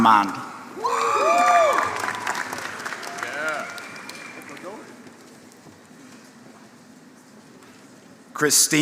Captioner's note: applause